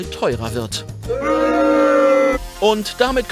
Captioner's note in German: Buhrufe